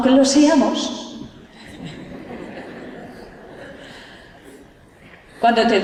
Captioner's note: laughter